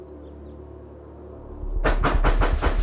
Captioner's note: banging on door